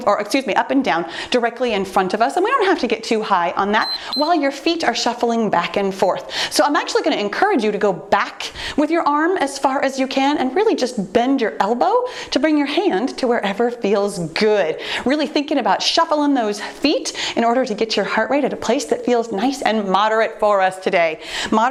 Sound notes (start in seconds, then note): 3.8 timer beeps